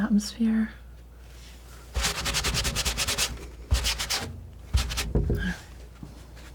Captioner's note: scratching